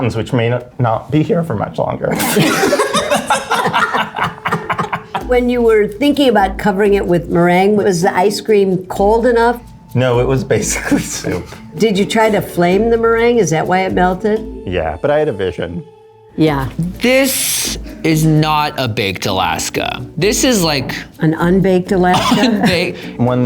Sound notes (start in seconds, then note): 2.1 all laugh